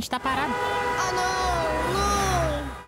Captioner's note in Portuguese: buzinadas